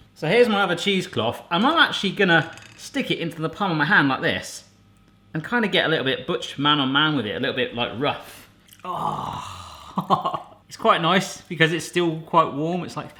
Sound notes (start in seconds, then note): 8.8 groans; 9.9 chuckles